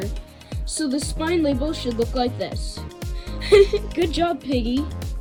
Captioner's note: laughs